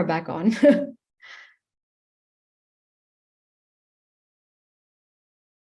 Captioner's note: laughing